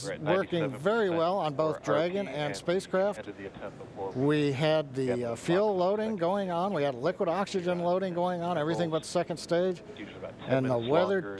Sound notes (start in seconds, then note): none